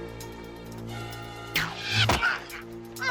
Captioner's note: snap, whirr; thud